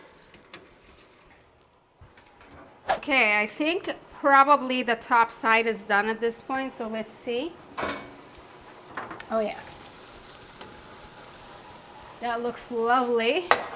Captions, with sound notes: Okay, I think probably the top side is done at this point, so let's see. Oh yeah. (meat sizzling) That looks lovely.